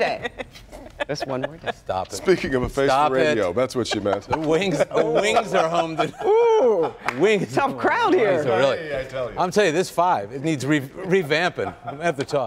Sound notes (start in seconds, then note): 0.0 laughter; 9.2 laughter